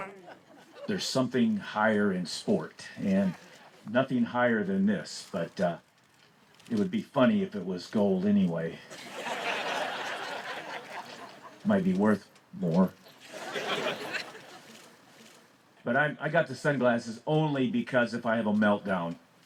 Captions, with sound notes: There's something higher in sport and nothing higher than this but... it would be funny if it was gold anyway. [crowd laughs] Might be worth more. [crowd laughs] But I got the sunglasses only because if I have a meltdown.